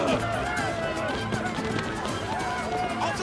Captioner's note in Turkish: Dövüş sesleri; Bağırma sesleri; Ayak sesleri